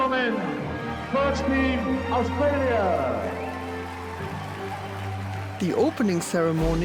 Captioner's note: crowd applauds and cheers